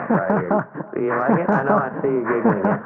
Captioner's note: laughs